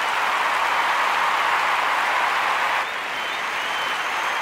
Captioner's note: applause